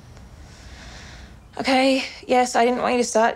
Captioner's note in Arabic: يستنشق